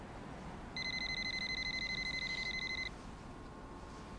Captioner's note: cell phone rings